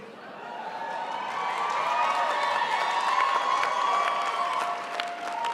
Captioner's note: crowd applauds